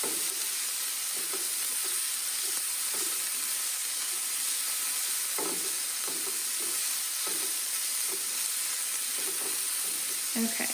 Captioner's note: sizzling